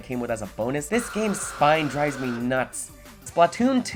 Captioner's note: shrieking